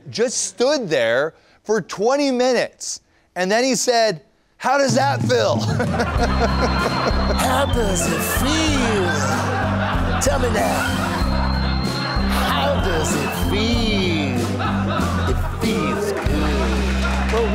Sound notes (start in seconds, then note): 5.4 laughter; 5.9 sings; 9.1 laughter